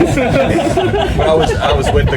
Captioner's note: members of the audience laughing